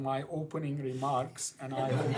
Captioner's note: laughter